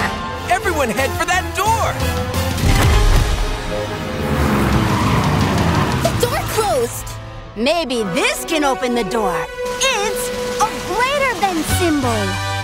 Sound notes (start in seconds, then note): 4.0 tires screeching